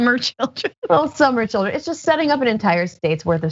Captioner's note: laugh